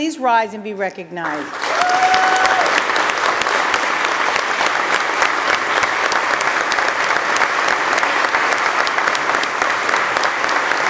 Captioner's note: applause